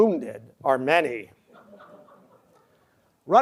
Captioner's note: laughter